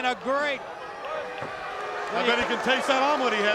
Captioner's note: crowd cheering